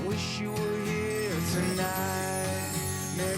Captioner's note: chimes tinkling